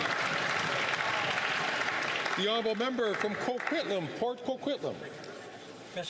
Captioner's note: some Applause